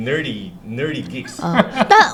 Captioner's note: laughter